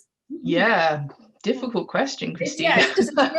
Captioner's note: laughs